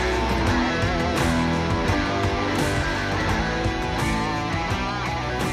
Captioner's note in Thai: ปรบมือ